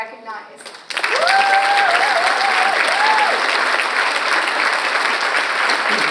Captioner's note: audience cheers and applauds